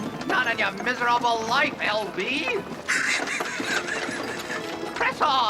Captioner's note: L.B. laughs